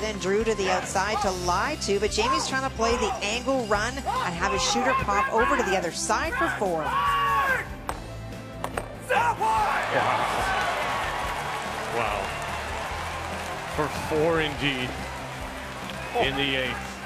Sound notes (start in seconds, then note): 14.7 applause